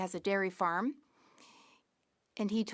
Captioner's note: speaking French